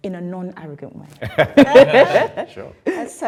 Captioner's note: group laughing